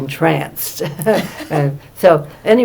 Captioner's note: laughter